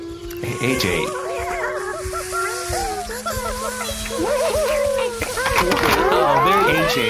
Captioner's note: Snookums rustling and laughing